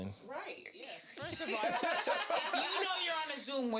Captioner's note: laughing